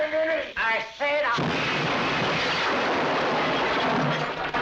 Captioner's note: explosion booms